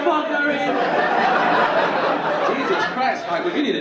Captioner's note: audience laughing